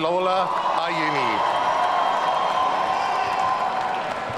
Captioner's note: audience cheering